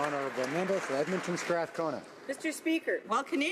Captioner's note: some Applause